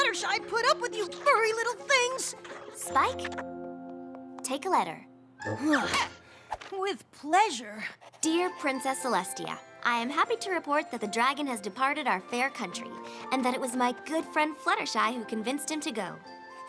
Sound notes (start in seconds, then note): 5.4 sighs